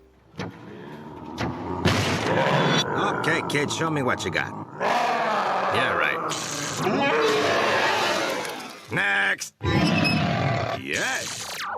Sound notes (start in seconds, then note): 0.8 monster snarling; 4.5 monster roars; 6.3 electric sparking; 6.3 monster wails; 10.2 monster snarls